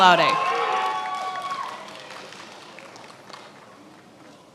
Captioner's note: attendees applauding